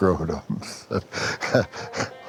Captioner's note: laughs